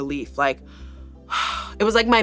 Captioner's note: sighs